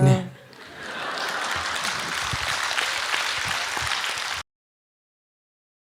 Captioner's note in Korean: 청중 웃음과 박수